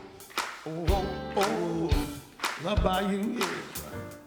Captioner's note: audience claps